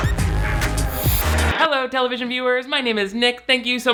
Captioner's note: screen rustling